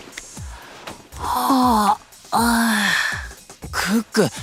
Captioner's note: yawns